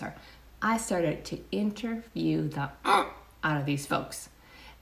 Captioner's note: grunts